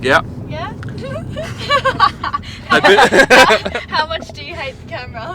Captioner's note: all laugh